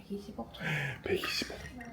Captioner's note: gasps